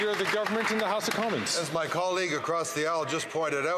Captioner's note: applause